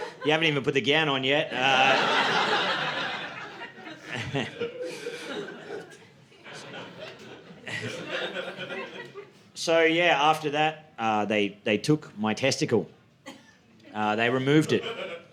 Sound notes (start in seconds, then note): 2.6 audience laughing